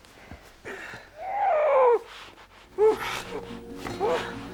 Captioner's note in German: Stöhnen